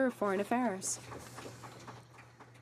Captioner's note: some Applause